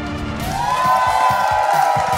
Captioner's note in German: Jubel, Pfiffe